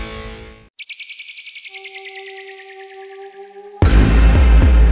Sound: electric whistling sounds

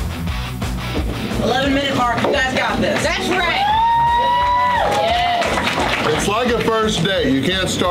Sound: crowd

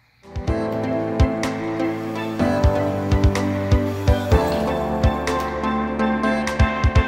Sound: energetic music; machines whirring

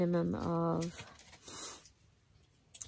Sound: sniffs

